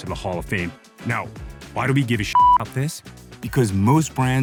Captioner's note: beep